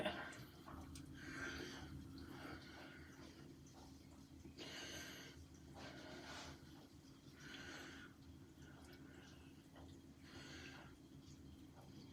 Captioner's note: no talking just breathing sounds